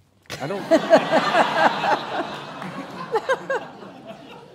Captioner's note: laughing